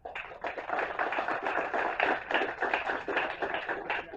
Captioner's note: applause